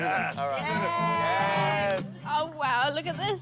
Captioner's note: all cheer